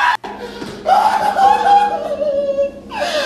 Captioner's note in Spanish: Gritando; Llorando